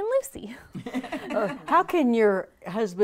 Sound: laughing

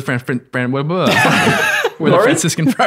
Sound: everyone laughs

